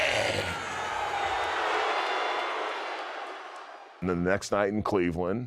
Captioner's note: crowd cheers and jeers